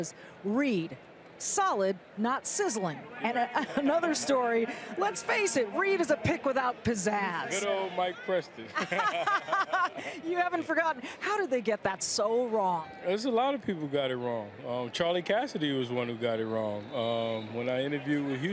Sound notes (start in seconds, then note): 8.7 laughs